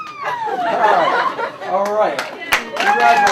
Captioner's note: applause